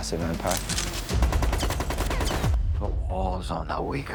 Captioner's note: gunfire